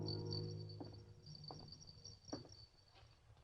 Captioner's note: bells jingling